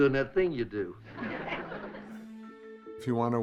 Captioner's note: audience laughs